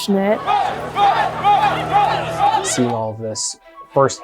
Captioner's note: crowd chanting